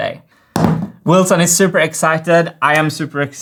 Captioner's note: funnel slams on table